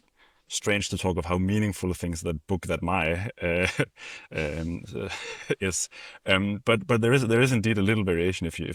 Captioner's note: laughs